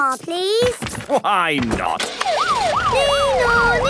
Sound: siren sounding

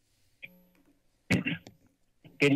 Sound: coughing

